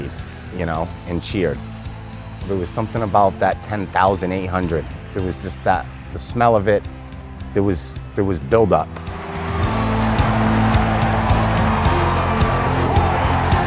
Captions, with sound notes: we played, you know, and cheered. It was something about that 10,800. It was just that—the smell of it, there was build-up. [public cheering]